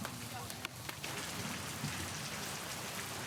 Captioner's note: raining